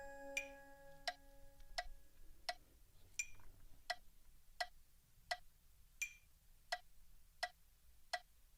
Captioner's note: tick-tock-tock rhythm